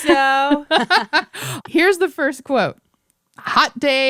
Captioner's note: laughter